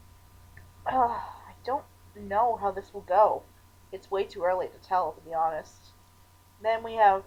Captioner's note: sigh